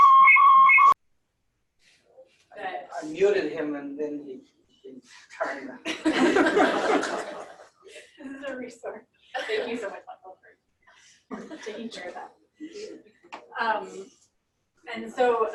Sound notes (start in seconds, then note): 5.6 laughter